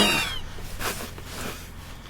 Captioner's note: doll squeaks; Sherman growls